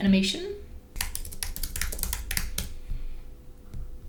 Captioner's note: typing